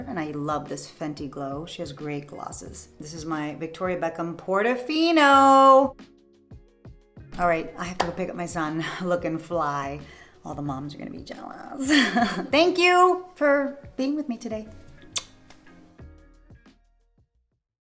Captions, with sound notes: And I love this Fenty Glow. She has great glosses. This is my Victoria Beckham Portofino. All right, I have to go pick up my son, lookin' fly. All the moms are gonna be jealous. Thank you for being with me today. [blows kiss] [soft music]